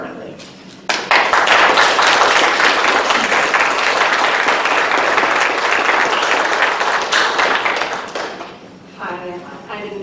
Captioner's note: applause